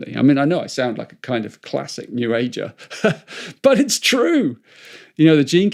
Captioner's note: chuckles